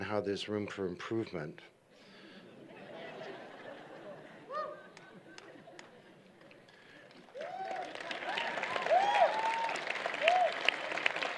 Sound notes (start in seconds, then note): 2.4 laughter; 6.4 applause